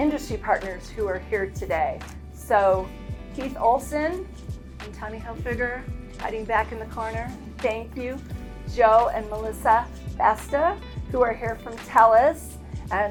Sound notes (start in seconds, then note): none